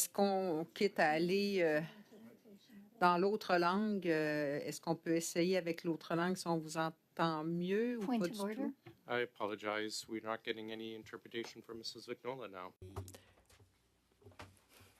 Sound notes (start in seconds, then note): 2.2 speaking French